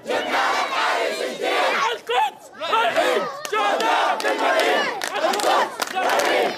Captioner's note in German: rufen auf Arabisch